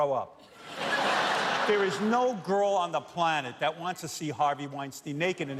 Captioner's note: laughter